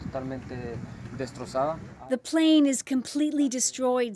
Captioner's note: speaking spanish